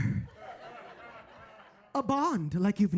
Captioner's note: audience laughing